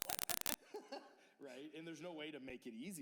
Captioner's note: laughter